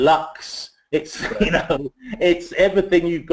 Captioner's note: laugh